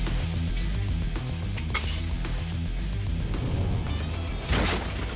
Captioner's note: ropes snapping